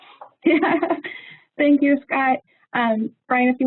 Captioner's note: laughs